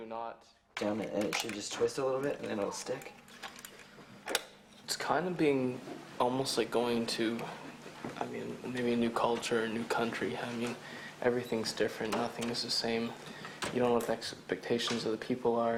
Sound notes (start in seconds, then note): 4.2 clicks